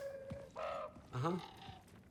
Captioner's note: caw